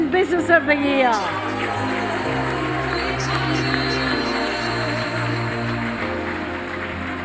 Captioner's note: applause